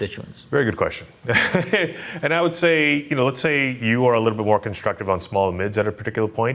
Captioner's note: laughs